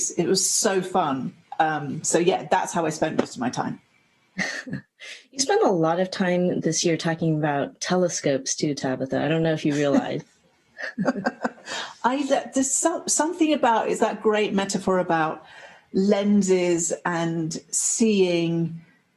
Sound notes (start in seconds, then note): 4.4 chuckle; 10.8 laughter